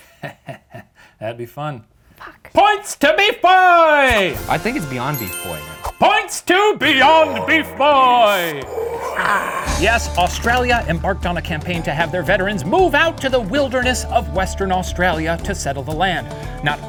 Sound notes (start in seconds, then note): 0.0 chuckles mischievously; 4.2 triumphant music; 6.9 ominous growling